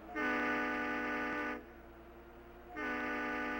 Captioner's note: horn blowing